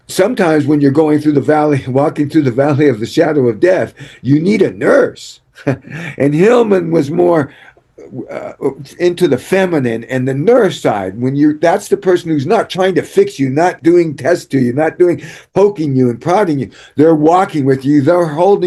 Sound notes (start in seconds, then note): 5.6 laughter